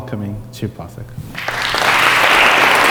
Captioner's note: audience claps